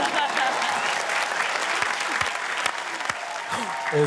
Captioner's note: applause